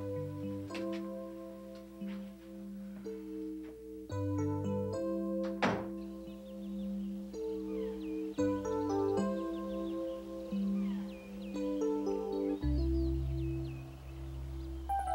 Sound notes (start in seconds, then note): 0.1 somber music; 5.4 door thuds; 8.2 birds chirping